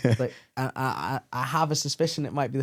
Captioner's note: laughs